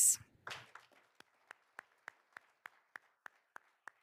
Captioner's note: all applauding